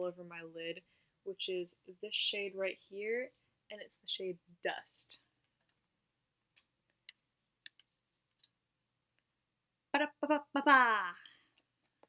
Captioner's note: clears throat